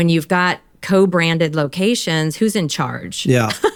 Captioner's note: laughs